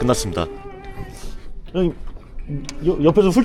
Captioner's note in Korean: 훌쩍